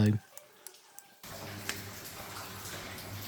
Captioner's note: sound of lots of dripping water